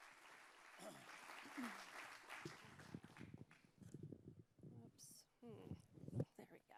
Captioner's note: applause